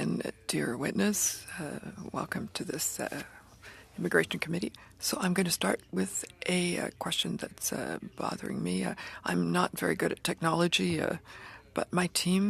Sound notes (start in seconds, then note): 2.6 speaking french